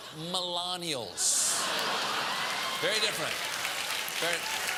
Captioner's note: laugh; applause